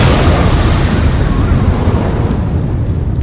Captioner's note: explosion